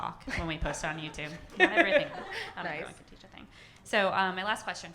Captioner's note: laughs